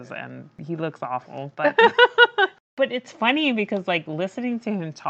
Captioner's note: laughs